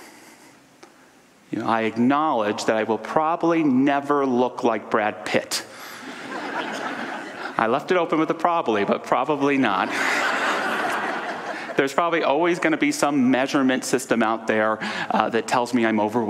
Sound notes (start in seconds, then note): 6.0 audience laughter; 9.8 audience laughter